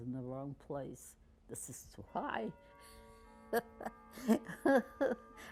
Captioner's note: laughing